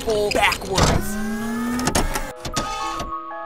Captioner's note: SFX: Futuristic door opening